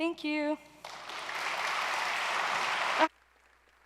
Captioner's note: applause